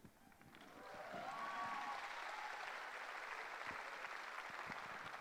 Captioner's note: applause